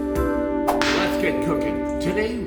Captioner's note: whip snapping